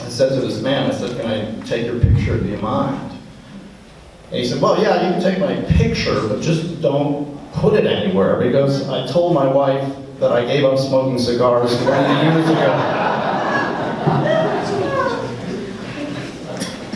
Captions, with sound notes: I said to this man, I said can I take your picture, do you mind? He said, well yeah, you can take my picture, but just don't put it anywhere. He goes, I told my wife that I gave up smoking cigars. (laughs)